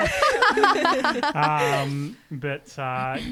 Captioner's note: laughing together